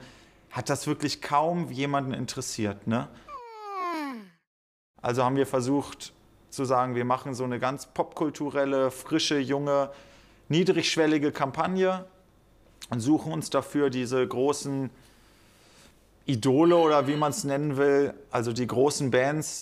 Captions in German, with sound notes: hat das kaum jemanden interessiert, ne? (Gähnen) Also haben wir versucht zu sagen, wir machen eine ganz popkulturelle, frische, junge, niedrigschwellige Kampagne. Und suchen uns dafür diese großen Idole oder wie man's nennen will, also die großen Bands.